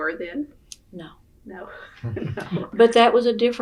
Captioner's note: laughter